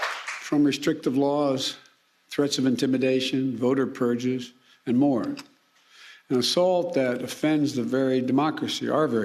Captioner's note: applause